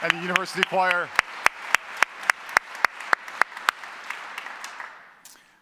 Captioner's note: congregation applauding